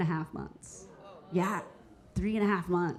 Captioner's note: audience members exclaiming